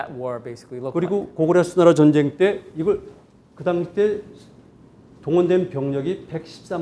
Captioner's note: speaking in Korean